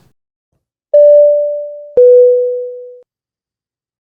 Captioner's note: beep